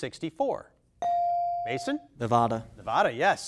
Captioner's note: bell dings